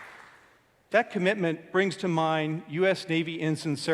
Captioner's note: applause